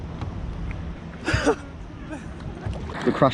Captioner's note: laughs